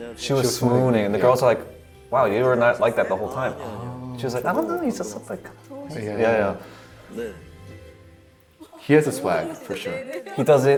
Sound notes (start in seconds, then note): 5.3 girly voice; 5.6 trailing off; 7.3 speaking Korean